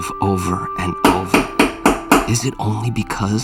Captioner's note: door knocking